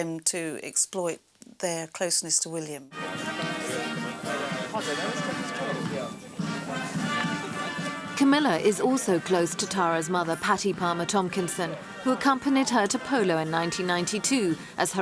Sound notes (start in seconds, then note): 3.1 chattering; 3.1 regal music